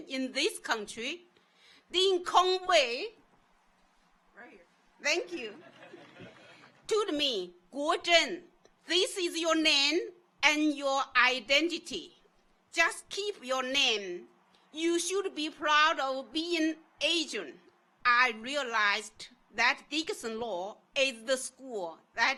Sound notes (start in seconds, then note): 5.5 audience laughs